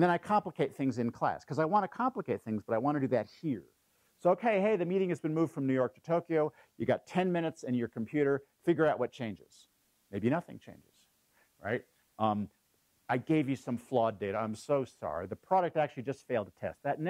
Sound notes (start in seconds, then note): none